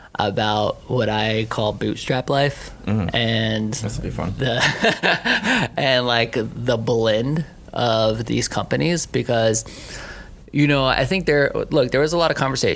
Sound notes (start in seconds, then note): 4.6 laughing